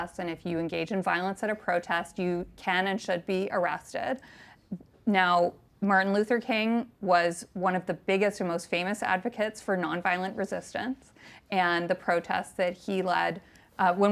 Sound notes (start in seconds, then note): none